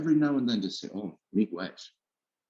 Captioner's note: speaking in a indigenous language